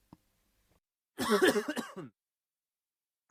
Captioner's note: cof cof cof